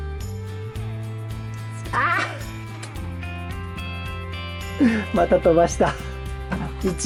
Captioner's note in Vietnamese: cười